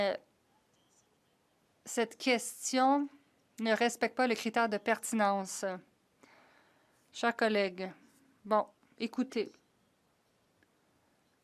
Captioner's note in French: voix de l'interprète